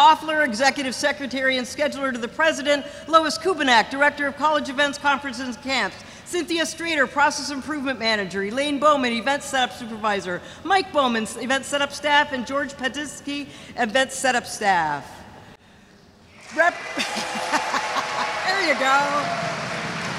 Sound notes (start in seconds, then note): 16.4 audience cheers